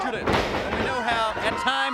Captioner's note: crowd cheering